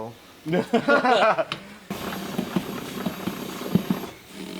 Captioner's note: laughing